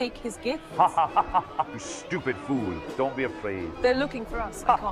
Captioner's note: laughs